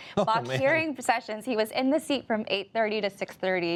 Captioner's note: laughs